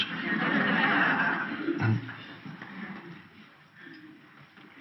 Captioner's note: audience laughs